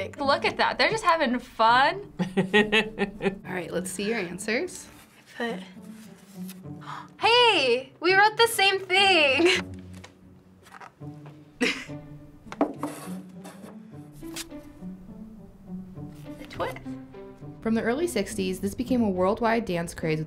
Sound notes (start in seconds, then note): 2.2 laughing; 6.8 gasping